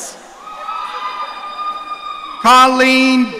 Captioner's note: audience cheering